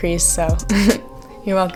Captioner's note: laughs